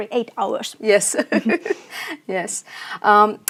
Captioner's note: chuckles